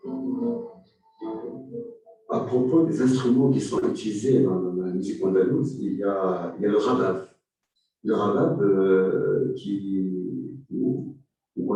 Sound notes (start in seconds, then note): 1.8 non-english speech